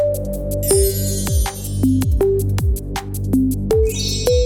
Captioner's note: chimes twinkling; chime twinkles